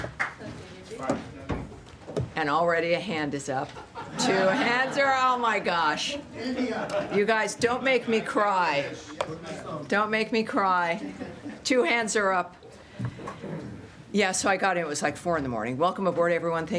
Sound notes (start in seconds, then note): 0.0 applause; 3.7 laughter